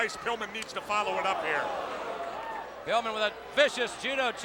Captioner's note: crowd clamoring; blows thudding